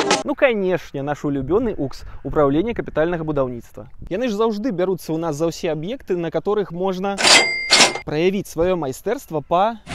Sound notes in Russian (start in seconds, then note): 7.2 звук кассового аппарата